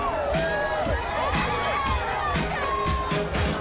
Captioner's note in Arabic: هتاف